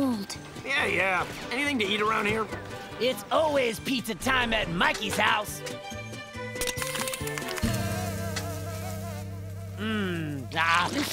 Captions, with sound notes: Yeah, yeah. Anything to eat around here? It's always pizza time at Mikey's house. [buzzing] Mmmm.